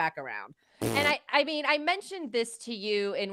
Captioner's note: blowing a raspberry